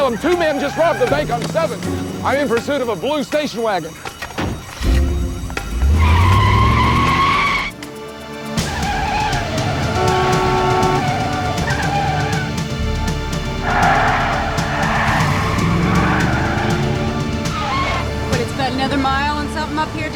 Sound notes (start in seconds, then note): 4.2 alarm wailing; 6.2 tires screeching; 8.1 suspenseful music; 8.9 horn blowing; 8.9 tires screeching; 11.4 suspenseful music; 11.4 tires screeching